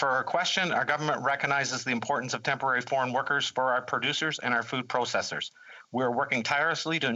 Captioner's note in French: voix de l'interprète